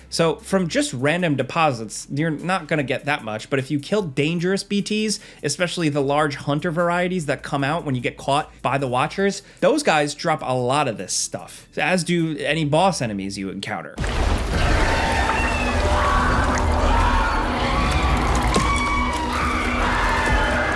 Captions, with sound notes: So from just random deposits, you're not gonna get that much. But if you kill dangerous BTs, especially the large hunter varieties that come out when you get caught by the watchers, those guys drop a lot of this stuff, as do any boss enemies you encounter. (BT screeching)